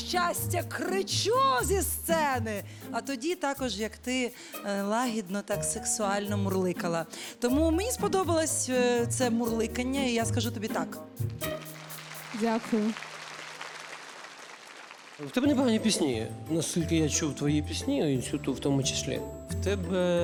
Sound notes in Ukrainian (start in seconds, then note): 11.6 оплески